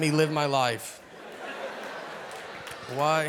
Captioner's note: audience laughing